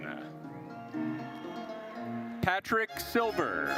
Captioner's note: attendees cheering